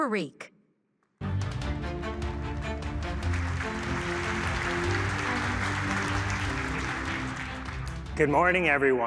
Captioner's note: applause